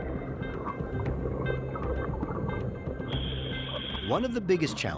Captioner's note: water burbling